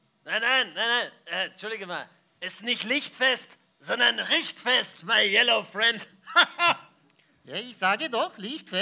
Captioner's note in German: lacht